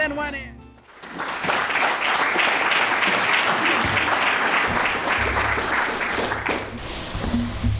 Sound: applause

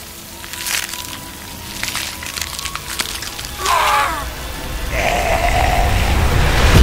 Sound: zombie groaning

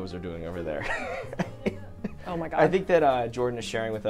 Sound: all laughing

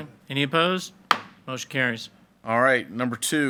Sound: gavel bangs

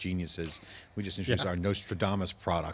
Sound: laughs

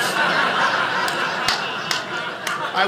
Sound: audience laughing

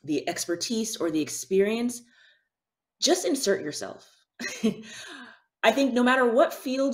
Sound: chuckles

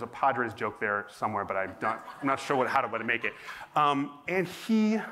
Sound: laughter

